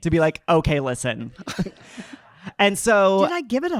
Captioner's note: audience laughing